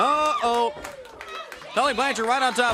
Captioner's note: crowd cheering